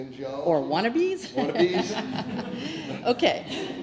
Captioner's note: laugh